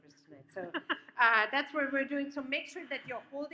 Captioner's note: laughs